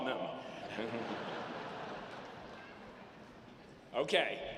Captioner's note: audience laughing